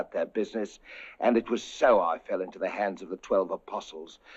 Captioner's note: inhales; inhales